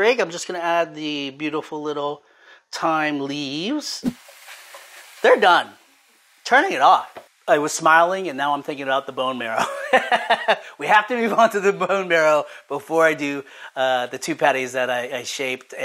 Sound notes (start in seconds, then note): 9.8 laughs